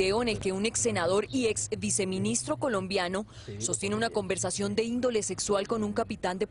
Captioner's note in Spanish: conversación en pantalla